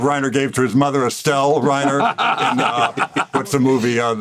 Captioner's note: all laugh